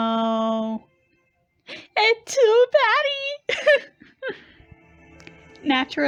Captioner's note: laughs